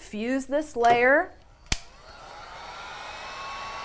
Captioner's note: buzzing